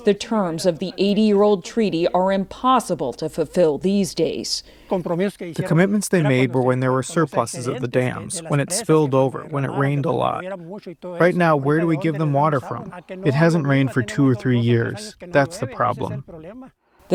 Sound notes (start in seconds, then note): 5.9 through translator